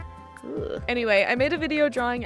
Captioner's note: sound of disappointment